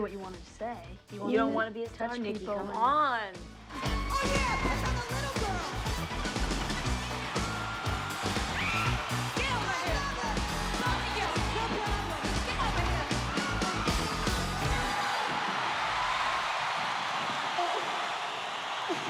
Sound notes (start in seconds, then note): 3.0 cries